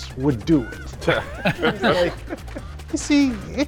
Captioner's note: both laughing